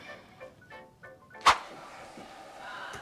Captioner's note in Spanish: swoosh